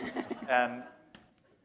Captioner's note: laughter